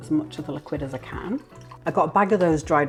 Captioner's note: liquid trickling